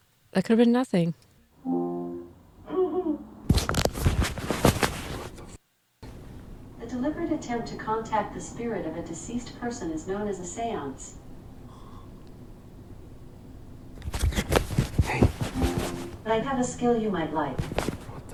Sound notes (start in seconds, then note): 2.7 Siri: child laugh